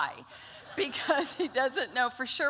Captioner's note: laughter